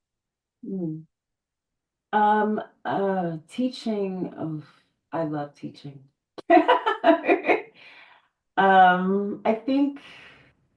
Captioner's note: laughs